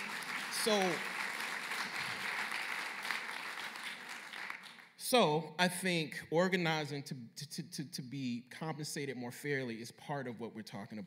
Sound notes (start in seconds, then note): 0.0 applause